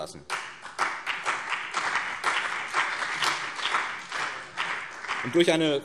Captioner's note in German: Beifall BÜNDNIS 90/DIE GRÜNEN und CDU